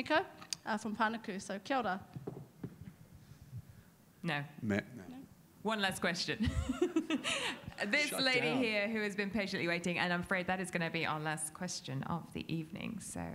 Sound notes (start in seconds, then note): 1.6 speaks in a foreign language; 6.4 laughs